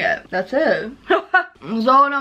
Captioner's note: laughs